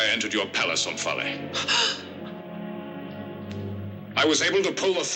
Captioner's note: gasps